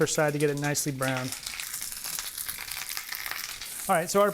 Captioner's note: sizzling